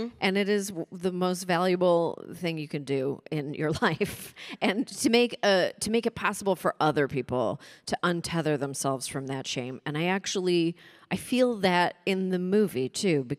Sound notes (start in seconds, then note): none